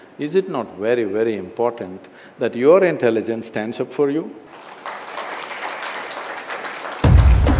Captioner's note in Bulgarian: Ръкопляскания